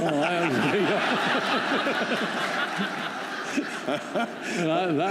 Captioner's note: laughter